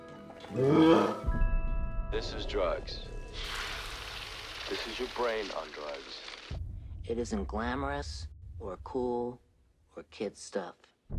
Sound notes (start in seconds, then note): 0.5 snarls; 1.8 on TV; 3.1 sizzling